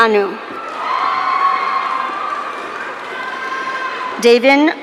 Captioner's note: audience cheering